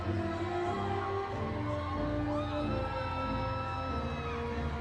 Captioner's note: audience continues cheering